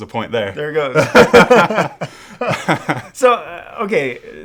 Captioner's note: laughter